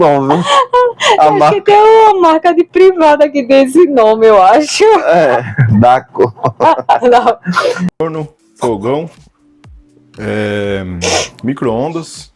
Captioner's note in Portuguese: risadas; risadas